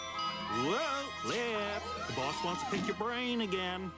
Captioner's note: chiming